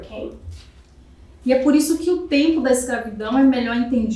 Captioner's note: speaking portuguese